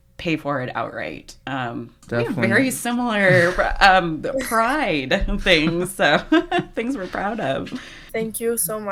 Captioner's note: laughs